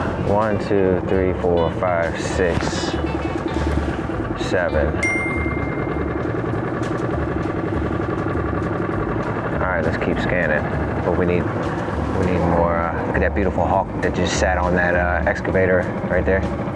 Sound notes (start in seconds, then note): 5.0 bell ringing; 6.1 engine droning; 6.1 upbeat music continues